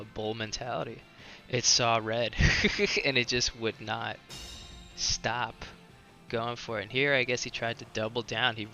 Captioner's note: laughs